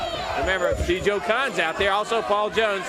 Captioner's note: crowd chatter